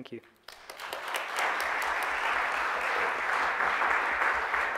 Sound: audience applauds

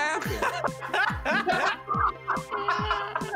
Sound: laughing

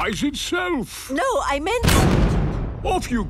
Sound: blasts off

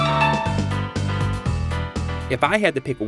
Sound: game audio

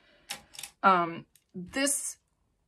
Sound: makeup brushes clanking

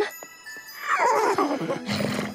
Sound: whinnies

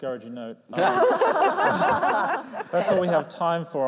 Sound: laughter

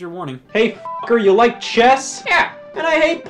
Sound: beep

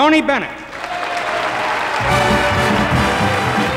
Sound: audience applauding; upbeat band music

